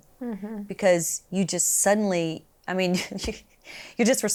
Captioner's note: laughs